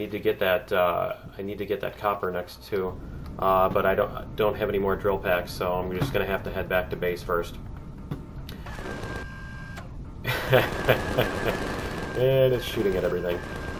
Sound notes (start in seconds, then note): 7.9 laughs; 7.9 turret shooting